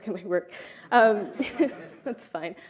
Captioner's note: laughter